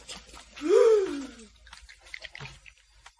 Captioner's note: sobbing